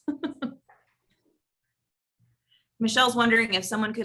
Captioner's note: laugh